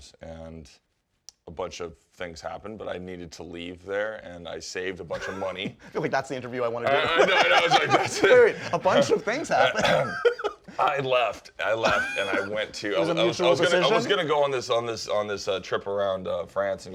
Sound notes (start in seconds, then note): 10.2 laughs